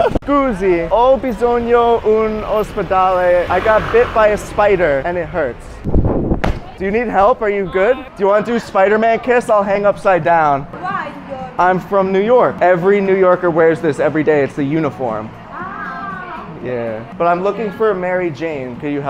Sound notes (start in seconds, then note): 0.0 laughs; 0.2 speaking Italian; 6.3 shoes thump